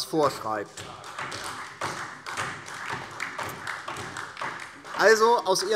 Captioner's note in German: Beifall DIE LINKE und SPD